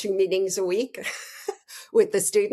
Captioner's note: laughing